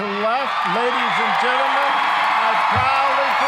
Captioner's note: loud applause, cheering